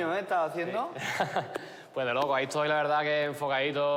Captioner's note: laughs